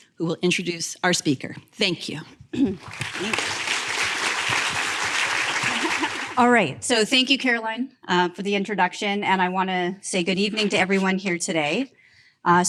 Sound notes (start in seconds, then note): 2.6 applause